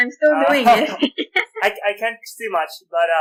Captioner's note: laughter